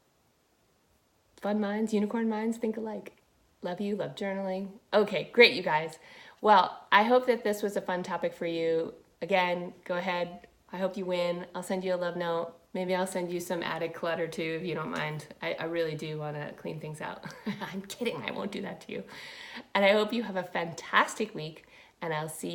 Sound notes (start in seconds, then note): 17.2 chuckles